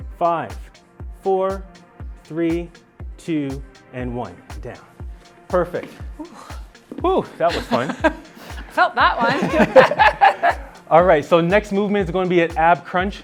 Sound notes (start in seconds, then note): 7.4 laughing; 8.6 laughing as well